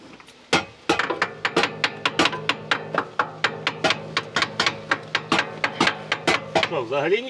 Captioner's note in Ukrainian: більш активне постукування молотком